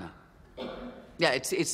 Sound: distant cough

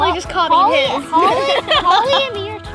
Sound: laughs

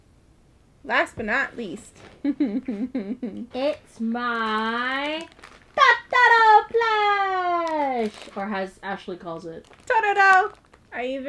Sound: laughs

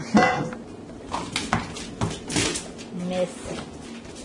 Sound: paws tapping floor

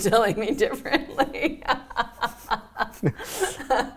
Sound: laughing

